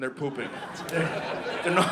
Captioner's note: audience laughing